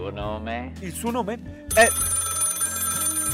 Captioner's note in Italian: squilla il telefono